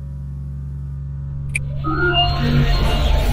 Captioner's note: clicks fingers; sounds of equipment starting up; classic dalek control room noise starts